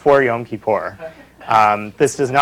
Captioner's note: laughter